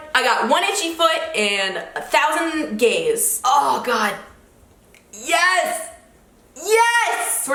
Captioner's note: none